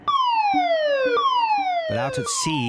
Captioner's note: alarm blaring